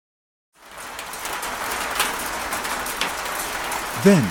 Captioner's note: rain on a zinc roof